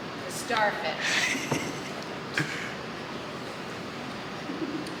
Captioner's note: laughing